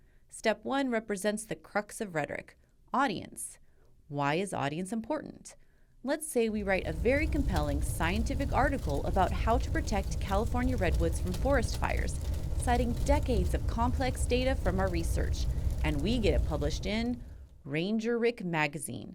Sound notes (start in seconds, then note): 6.5 fire crackling